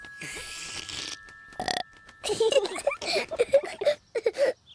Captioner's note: slurping; burps; kids laugh